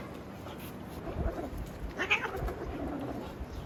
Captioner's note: very angry meow